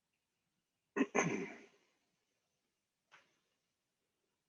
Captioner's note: clears throat